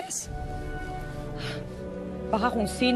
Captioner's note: sighs